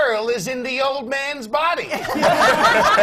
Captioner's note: laughter